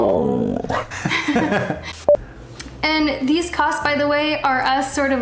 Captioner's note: laughter